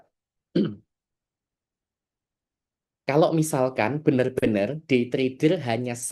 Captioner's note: berdehem